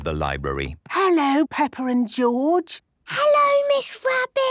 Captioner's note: whispering